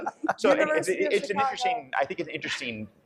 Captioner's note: panel laughs